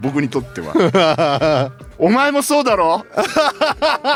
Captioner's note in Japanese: 笑い